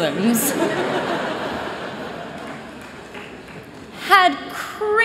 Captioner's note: laughter